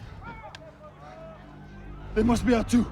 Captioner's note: hushing the soldiers; distant shouting